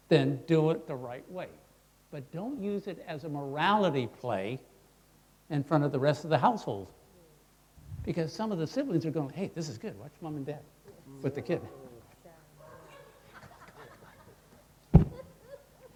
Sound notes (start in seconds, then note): 12.7 crowd laughing